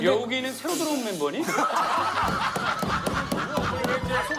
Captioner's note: laughter